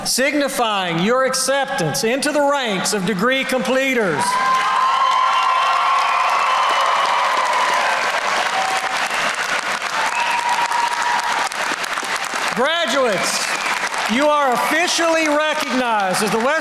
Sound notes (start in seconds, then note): 4.3 applause